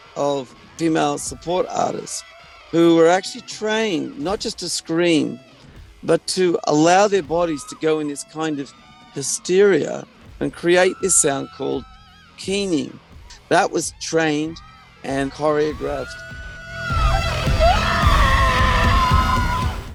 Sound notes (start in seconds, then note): 17.2 screaming